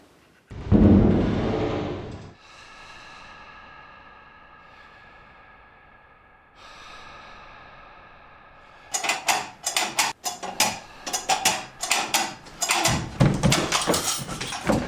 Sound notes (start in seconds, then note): 0.5 feet stomping; 2.4 heavy breathing; 8.9 clown clanging